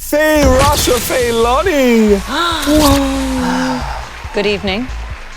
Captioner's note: players gasping; audience applauding